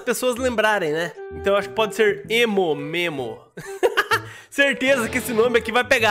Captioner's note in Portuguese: risos